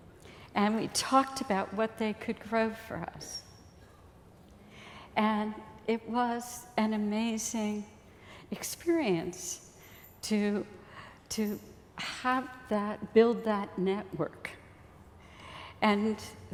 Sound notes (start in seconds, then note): none